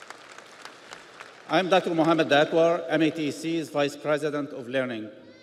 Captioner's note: audience applauds